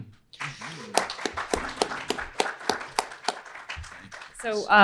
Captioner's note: everyone applauding